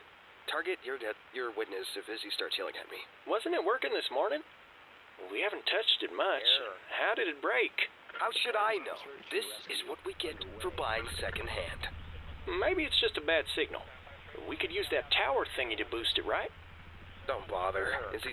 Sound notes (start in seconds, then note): 8.3 Static; 10.2 helicopter; 11.1 Static